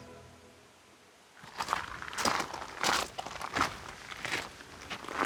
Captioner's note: pebbles crackling